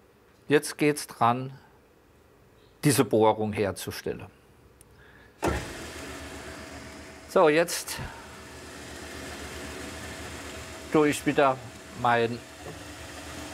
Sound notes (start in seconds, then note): 5.3 whirring